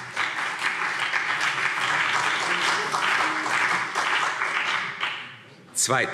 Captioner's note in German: Beifall CDU und BÜNDNIS 90/DIE GRÜNEN